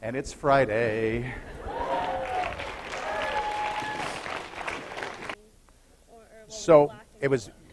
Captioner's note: applause